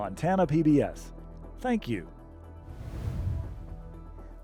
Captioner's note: logo swooshes